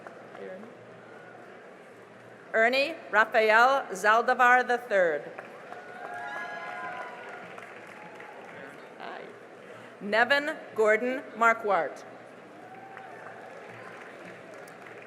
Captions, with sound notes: Ernie Rafael Zaldivar III [CHEERING AND APPLAUSE] Nevin Gordon Markwart [CHEERING AND APPLAUSE]